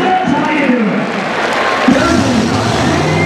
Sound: crowd cheering

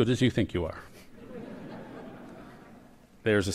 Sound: laughter

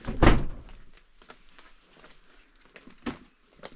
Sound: silent

